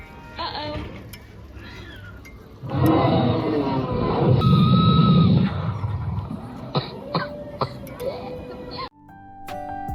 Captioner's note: monument Sound Effect